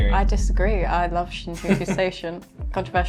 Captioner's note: chuckling